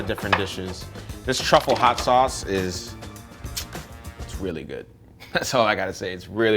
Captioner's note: clicks tongue; laughs